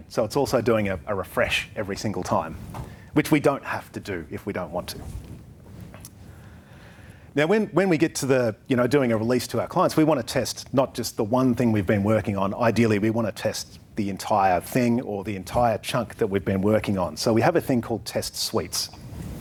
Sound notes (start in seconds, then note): none